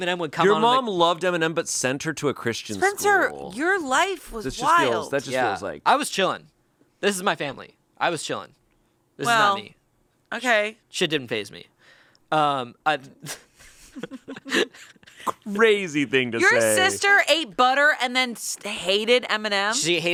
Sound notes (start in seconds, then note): 13.2 chuckle